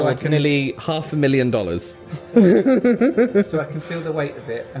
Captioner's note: laughs